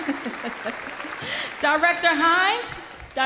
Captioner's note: applause